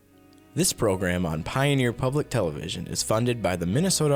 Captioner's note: voiceover